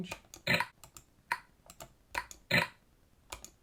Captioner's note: clicking